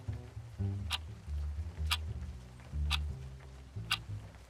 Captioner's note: clock ticking